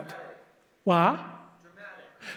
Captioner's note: audience mumbles